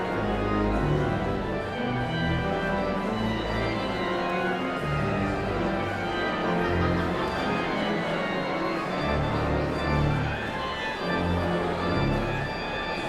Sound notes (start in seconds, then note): 5.1 audience chatter continues; 5.1 sound of organ tuning